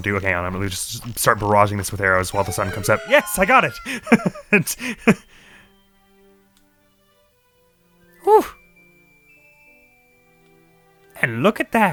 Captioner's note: laughs